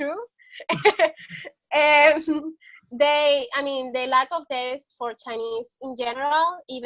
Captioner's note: laughs